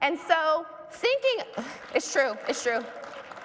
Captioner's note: audience applauds